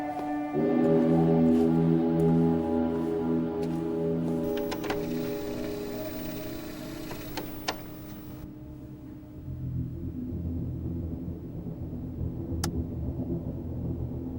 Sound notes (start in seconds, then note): 3.6 static buzzing; 9.2 light dramatic music